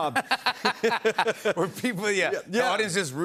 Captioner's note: laughter